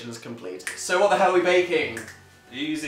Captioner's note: snaps